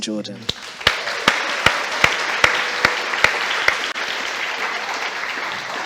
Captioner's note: applause